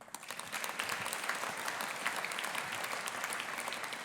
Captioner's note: audience applauding